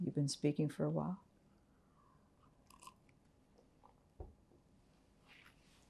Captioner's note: drinking